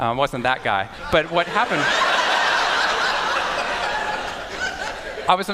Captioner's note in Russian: Смех